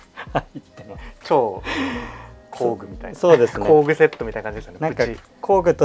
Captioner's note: laughs